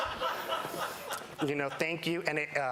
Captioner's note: laughter